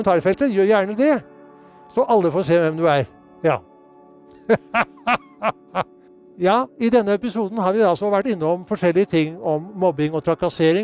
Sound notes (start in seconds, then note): 4.4 Nissen laughs